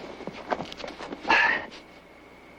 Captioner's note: ahh!